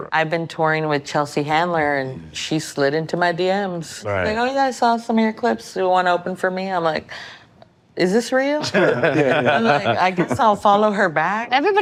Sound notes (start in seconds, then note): 8.6 all laughing